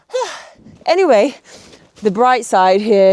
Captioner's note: person breathing